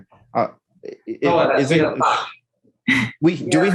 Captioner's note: indistinct conversation